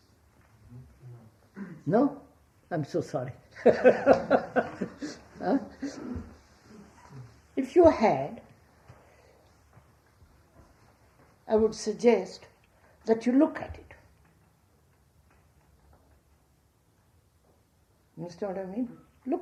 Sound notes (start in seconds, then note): 6.7 laughs